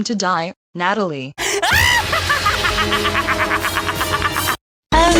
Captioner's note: laughing maniacally